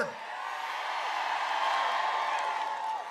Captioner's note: applause